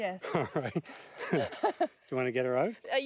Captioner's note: laughs